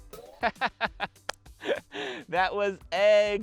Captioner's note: laughs